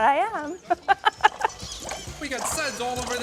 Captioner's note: laughs